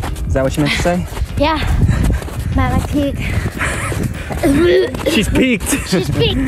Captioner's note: gags